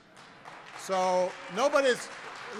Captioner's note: applause